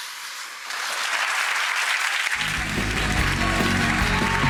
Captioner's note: audience applauds